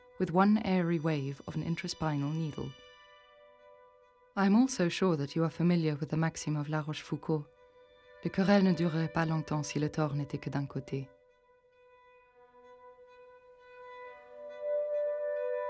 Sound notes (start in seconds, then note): 8.6 narrator speaking in foreign language; 12.2 ominous music